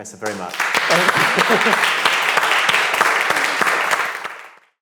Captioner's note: audience clapping